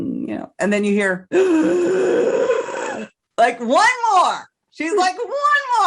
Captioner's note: heavy breath